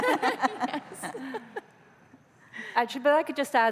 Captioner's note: laughter